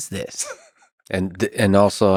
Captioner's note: Tim laughs